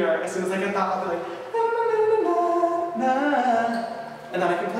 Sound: imitates piano melody

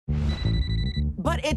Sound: phone ringing

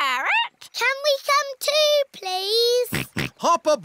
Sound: snorts

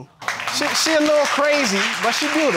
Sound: audience applauds

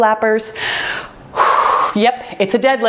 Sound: heavily breathes out

